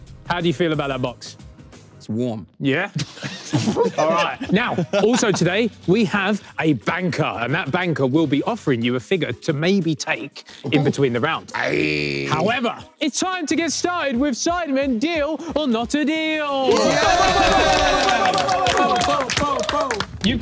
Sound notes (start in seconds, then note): 3.0 everyone laughing; 16.7 everyone clapping